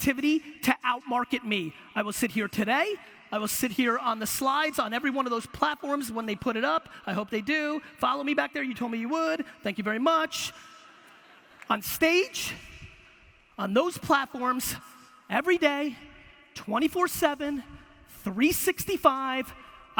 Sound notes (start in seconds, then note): 10.7 audience laughter